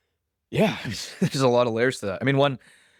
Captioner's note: laughs